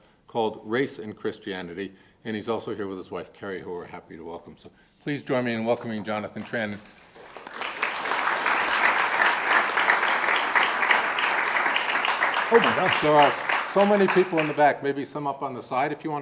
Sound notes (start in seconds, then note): 6.8 audience applauding